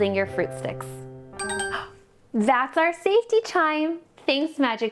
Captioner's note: chime